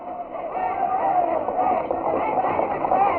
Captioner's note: all cheering